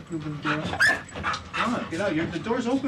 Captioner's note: dog yelps